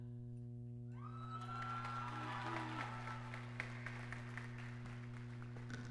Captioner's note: audience claps and cheers